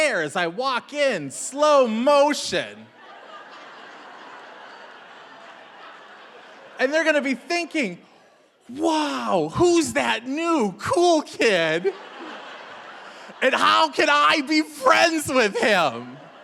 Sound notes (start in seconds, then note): 2.8 audience laughing